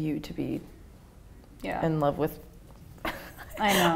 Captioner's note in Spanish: ríe